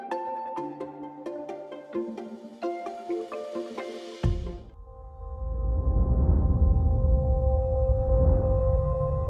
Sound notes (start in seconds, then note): 5.8 air whooshing